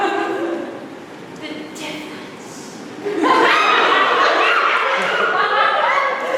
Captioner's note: scattered laughter